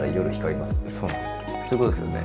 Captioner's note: laughs